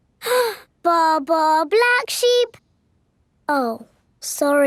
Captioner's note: inhales